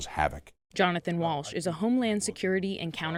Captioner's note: voice-over